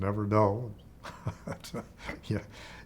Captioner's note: laughs